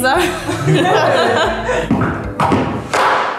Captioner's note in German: Rhythmisches Klopfen